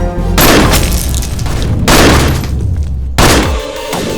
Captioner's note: gunshot